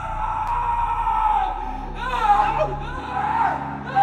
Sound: screaming

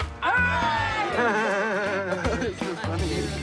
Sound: laughs

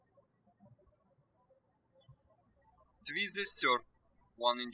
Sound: birds chirping

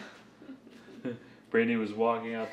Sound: giggling

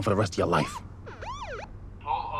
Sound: police siren chirps

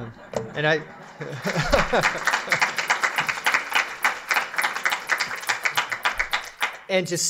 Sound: laughter; applause

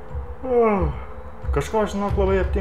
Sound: yawn

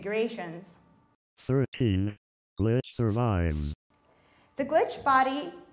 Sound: robot Voice

